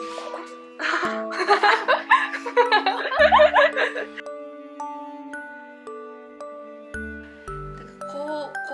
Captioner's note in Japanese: 笑い